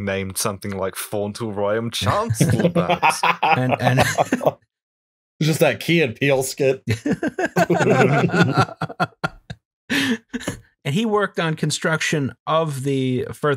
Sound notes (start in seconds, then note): 2.8 laughter